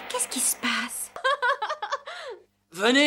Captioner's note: laughers